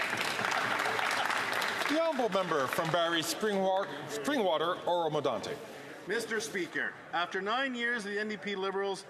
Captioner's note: some Applause